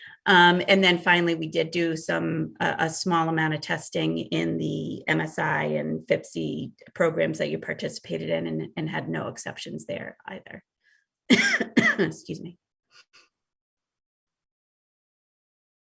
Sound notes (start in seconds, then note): 11.3 coughs